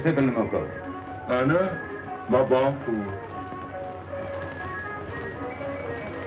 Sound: speaking foreign language

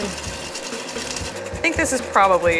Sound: whisking eggs

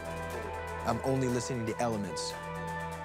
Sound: echoing

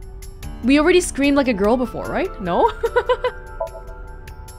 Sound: chuckles

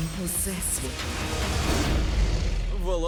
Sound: roars

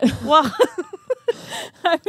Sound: chuckling

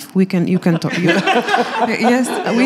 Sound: laughing

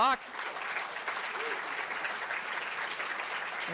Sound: audience applauds

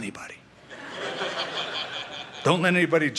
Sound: laughter

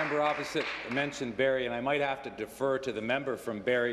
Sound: applause

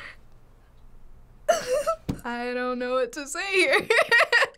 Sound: giggles nervously; laughs

